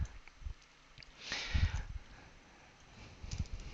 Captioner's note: breathing sounds